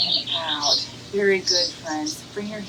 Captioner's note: bird chirps